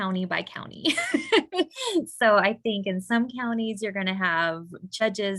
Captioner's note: chuckling